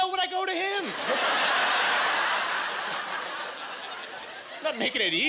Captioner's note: laughing